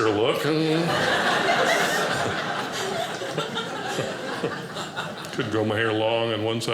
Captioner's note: audience laughing